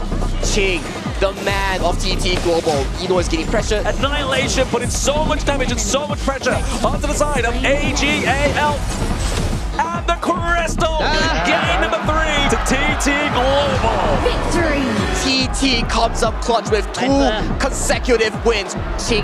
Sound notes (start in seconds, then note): 13.7 automated voice